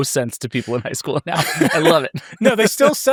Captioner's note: laughs